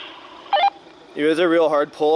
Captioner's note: radio beep